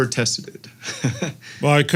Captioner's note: laugh